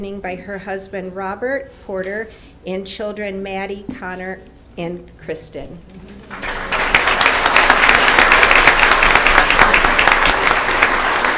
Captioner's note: applause